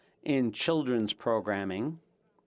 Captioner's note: speaking French